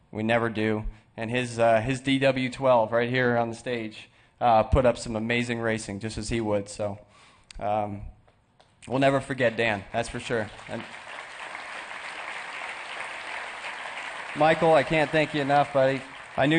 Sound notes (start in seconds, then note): 13.3 applause